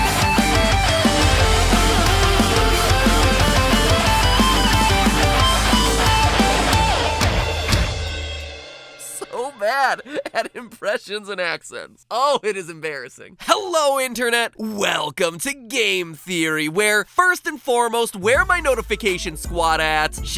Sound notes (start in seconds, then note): 9.0 laughing; 11.8 continues laughing